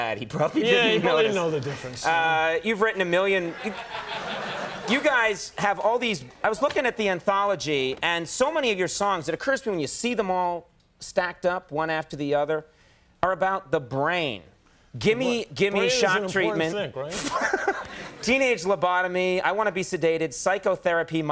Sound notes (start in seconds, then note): 2.8 audience laughing; 17.1 laughing